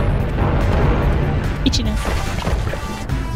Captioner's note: silly voice